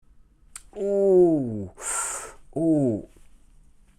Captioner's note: groans